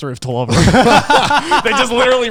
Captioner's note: guys laughing